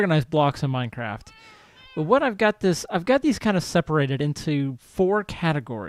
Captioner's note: cat meows